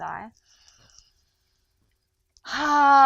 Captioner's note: inhales deeply